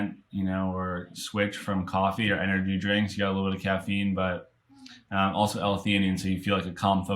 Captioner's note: intake